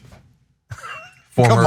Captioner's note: laugh